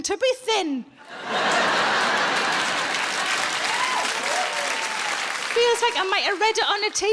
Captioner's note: audience laughing and applauding